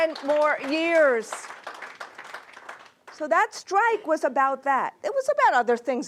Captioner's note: applause